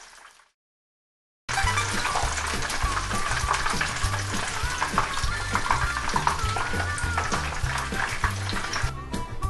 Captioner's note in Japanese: エビを揚げている音